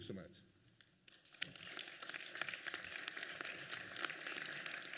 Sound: applause

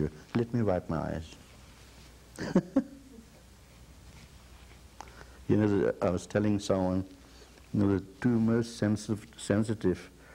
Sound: he laughs

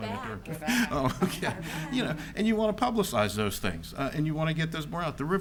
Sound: laughs

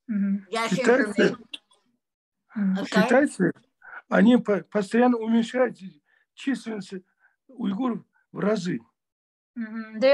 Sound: in Russian

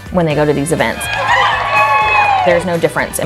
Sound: students cheering

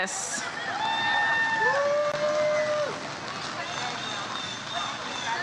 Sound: audience cheers

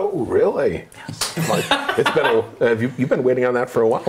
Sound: laughing

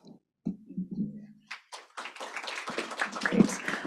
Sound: applause

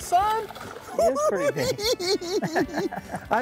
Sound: cackling

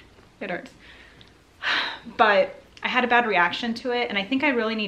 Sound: sighing

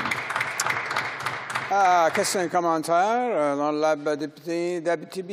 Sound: some Applause

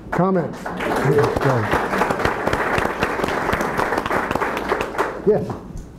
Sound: attendees applauding

